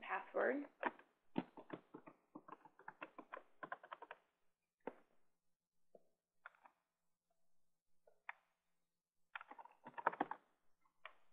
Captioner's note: typing Sounds